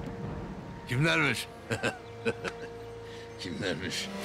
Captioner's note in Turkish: Gülme sesi